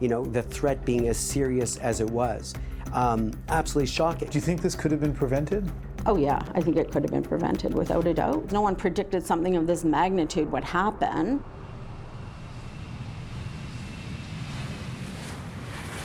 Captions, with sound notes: the threat being as serious as it was, absolutely shocking. - Do you think this could have been prevented? - Oh, yeah, I think it could have been prevented without a doubt. No one predicted something of this magnitude would happen. [PLANE ENGINE REVVING]